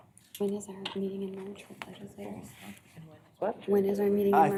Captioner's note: indistinct chatter